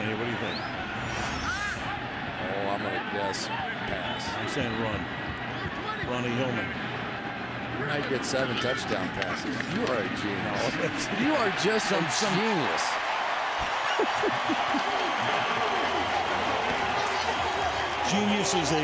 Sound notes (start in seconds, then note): 10.6 chuckles; 13.6 laughs; 15.7 cheering